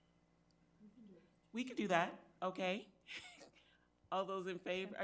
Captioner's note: speaks faintly